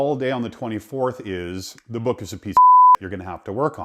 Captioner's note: beep